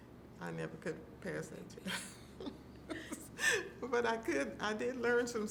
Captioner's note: laughing